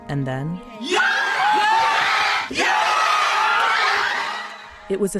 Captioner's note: cheers